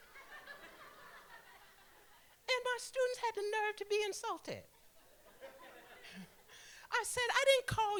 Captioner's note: laughter; laughter